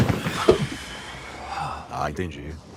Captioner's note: exhales